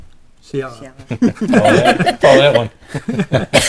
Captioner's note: laughing